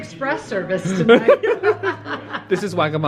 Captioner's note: laugh